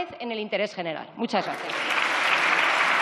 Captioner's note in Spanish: Aplausos